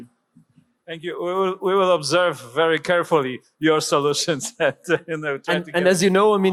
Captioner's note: laughs